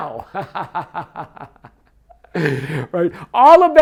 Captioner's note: laughing